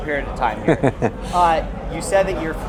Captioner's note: chuckles